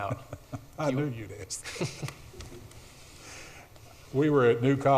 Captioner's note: laughs